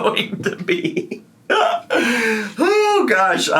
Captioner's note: laughing